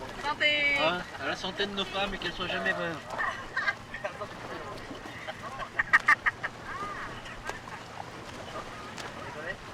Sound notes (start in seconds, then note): 5.0 laughs